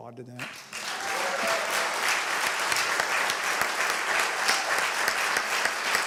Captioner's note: applause